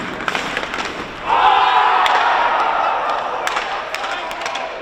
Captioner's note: players cheering